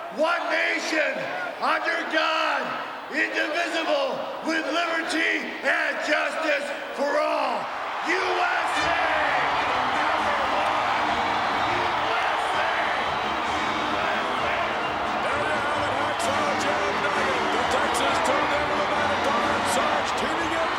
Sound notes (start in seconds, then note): 10.5 crowd cheering; 10.5 patriotic music